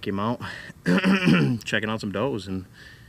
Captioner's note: clears throat